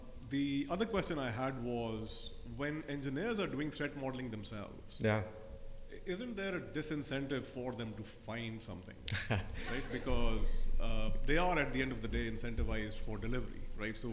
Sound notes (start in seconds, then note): 9.2 audience laugh